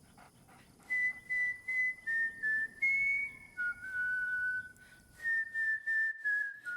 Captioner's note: whistling